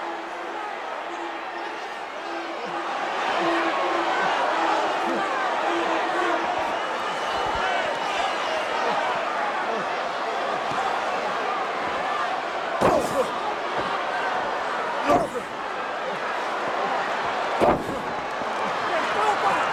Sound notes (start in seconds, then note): 13.4 Paul grunting